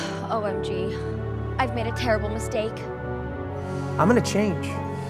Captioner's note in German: seufzt